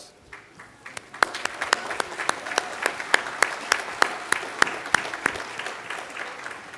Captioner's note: applause